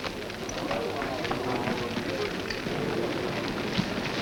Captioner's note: men muttering